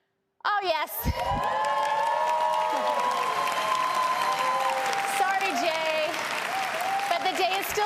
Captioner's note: applause